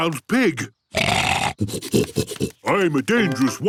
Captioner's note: snorting